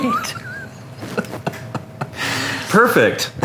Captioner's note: laughs